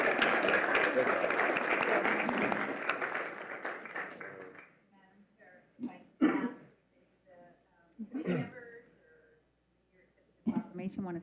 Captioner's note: applause